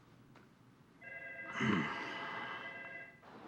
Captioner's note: clears throat